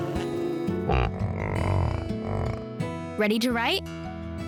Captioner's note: yellowjacket buzzing; yak grumbling